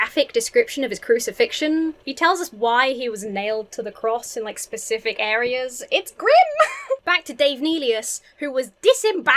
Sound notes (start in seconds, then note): 6.4 giggles